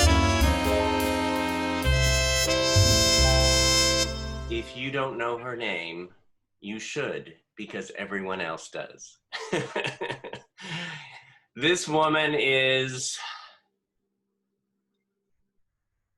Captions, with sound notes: - If you don't know her name, you should because everyone else does. (laughs) This woman is,